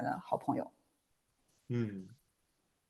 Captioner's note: nonverbal grunt as interjection